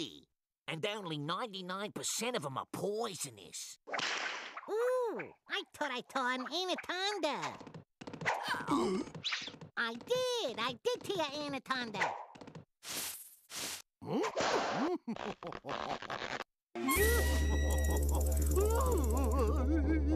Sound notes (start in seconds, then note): 3.9 whip cracking; 8.3 choking; 14.8 laughing; 18.6 crying